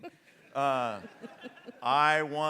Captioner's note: audience laughs